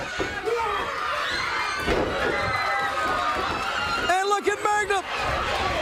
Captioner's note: crowd cheering